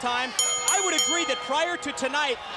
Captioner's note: bell ringing